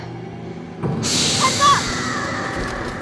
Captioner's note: hisses